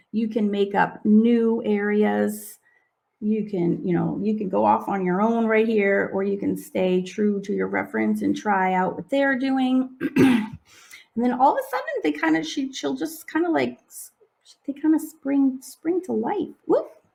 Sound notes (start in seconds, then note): 10.0 clears throat